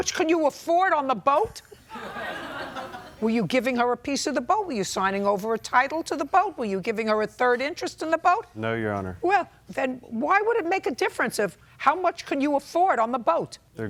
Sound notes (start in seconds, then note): 1.8 audience laughing